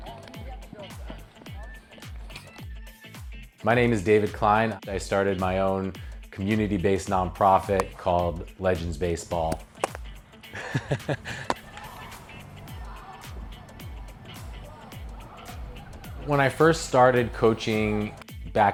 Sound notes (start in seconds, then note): 10.4 laughing